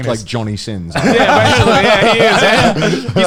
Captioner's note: laughing